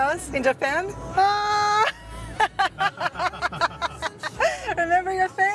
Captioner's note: laughs